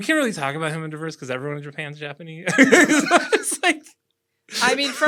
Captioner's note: laughter